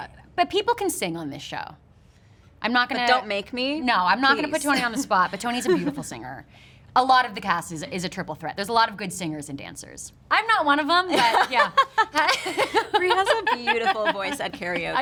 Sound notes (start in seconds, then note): 11.1 laughter